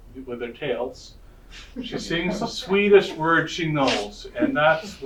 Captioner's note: audience laughter